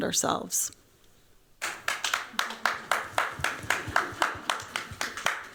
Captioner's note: applause